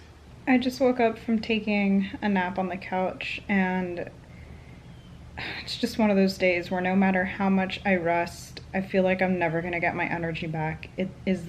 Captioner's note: sighs